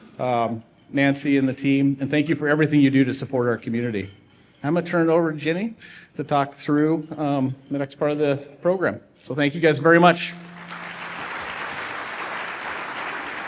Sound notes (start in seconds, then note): 10.4 applause